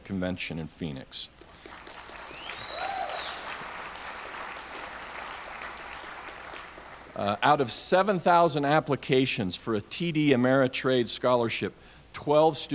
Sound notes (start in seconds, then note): 1.4 audience applauds; 1.9 audience cheers